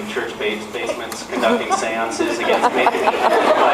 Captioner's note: laughs